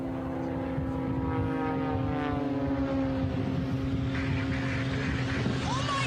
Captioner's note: plane engine roaring